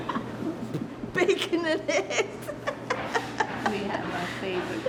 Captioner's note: big laughs